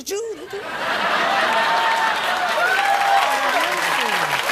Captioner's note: laughter; applause